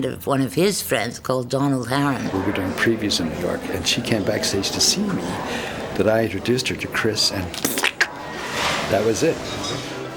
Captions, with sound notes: of one of his friends called Donald Harron. - We were doing previews in New York and she came backstage to see me, but I introduced her to Chris, and (makes squelching sound) that was it.